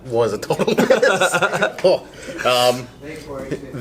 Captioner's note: laughing